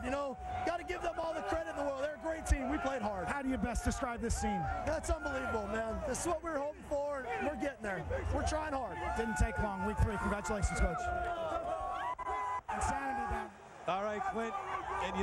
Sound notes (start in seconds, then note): 11.4 cheering, applause